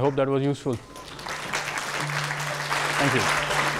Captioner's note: attendees applauding